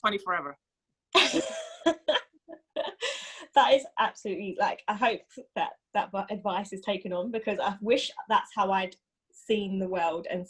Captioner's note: laughs